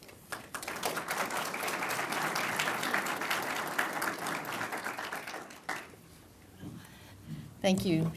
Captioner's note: applause